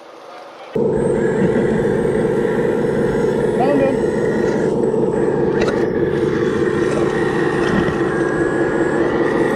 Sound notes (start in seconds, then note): 0.9 robotic noises